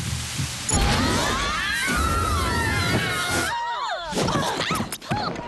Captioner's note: yelling